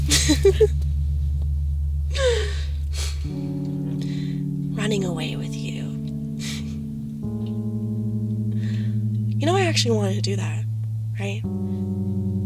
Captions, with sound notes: (Turtledove giggles) (sighs) Running away with you. Y’know I actually wanted to do that, right?